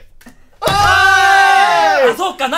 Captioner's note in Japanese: テーブルを叩く音